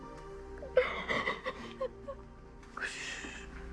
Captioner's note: crying